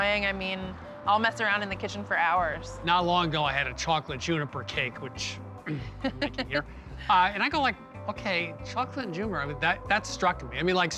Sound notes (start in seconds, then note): 5.6 clearing throat; 5.6 chuckles